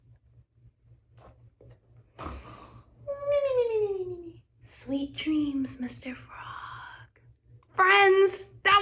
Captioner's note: sleeping noises